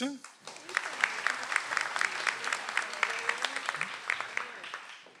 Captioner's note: audience applauds